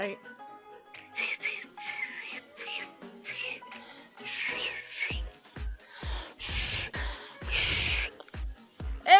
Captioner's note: attempts to Whistle